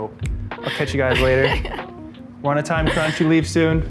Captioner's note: laughs